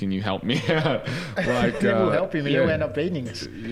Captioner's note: giggles